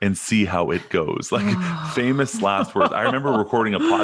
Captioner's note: laughing